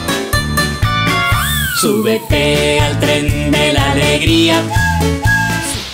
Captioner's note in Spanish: Música alegre; Silbido de tren